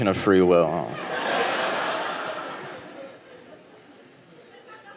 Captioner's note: audience laughing